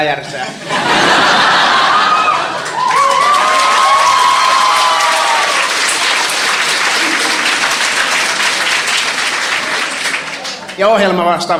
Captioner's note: laughter, applauding